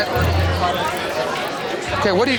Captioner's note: chatter